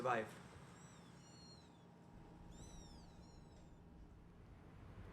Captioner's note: kitten mews